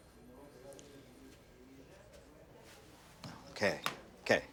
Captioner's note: background chatter